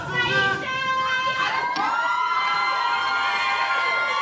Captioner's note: crowd rooting